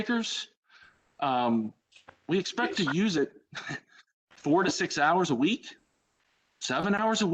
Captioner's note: laughter